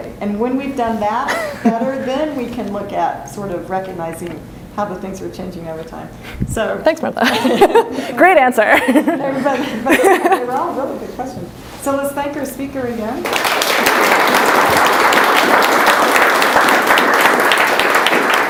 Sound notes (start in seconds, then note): 7.2 laughs; 13.2 applause